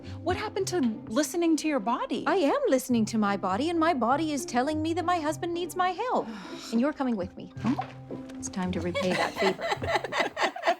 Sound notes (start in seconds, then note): 7.2 sighs